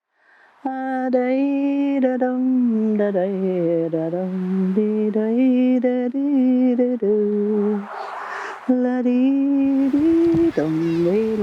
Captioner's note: humming